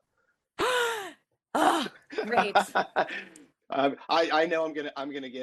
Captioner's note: gasps